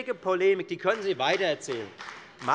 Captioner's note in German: Beifall bei der FDP